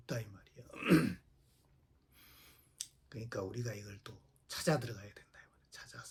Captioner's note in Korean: 목을 가다듬음